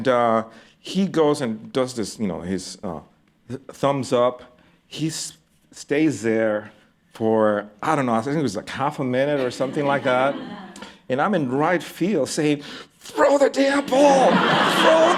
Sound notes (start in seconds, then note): 9.3 laughter; 13.8 laughter